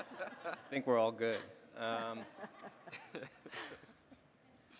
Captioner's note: panelists laughing; laughing